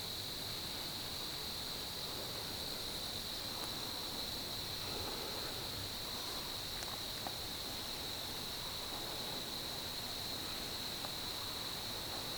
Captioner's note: wind / insects